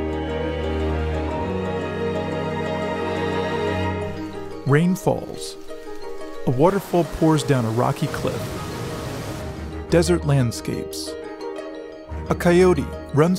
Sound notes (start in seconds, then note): 6.5 flowing water